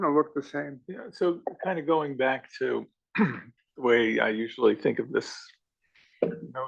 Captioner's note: cough